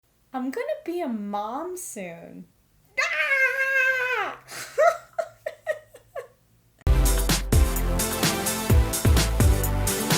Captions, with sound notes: I'm gonna be a mom soon. Ahhhhhhhhhh! *nervous laughter*